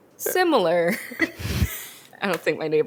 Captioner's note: both laugh